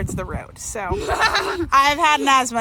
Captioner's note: laughs